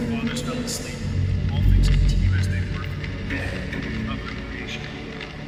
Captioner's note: haunting voices